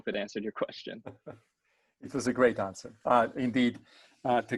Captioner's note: chuckles